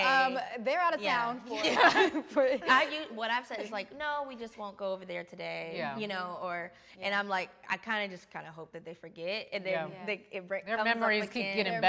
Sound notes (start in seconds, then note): 1.5 all laughing